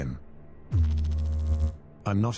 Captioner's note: electrical noise